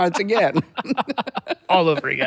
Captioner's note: laughing